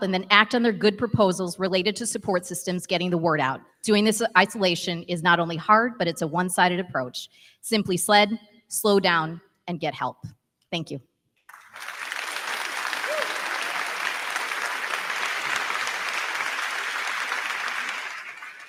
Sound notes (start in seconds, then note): 11.4 crowd clapping; 11.5 crowd cheering